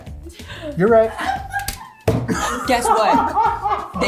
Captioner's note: cast laughing